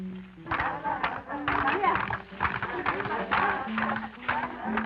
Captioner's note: women clapping and chanting